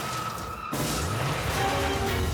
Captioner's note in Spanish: Estruendo